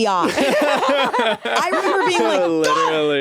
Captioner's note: laugh